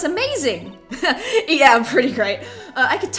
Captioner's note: laughs